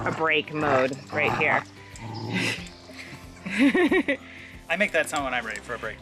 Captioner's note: playful growling